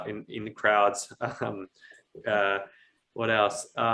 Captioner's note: chuckles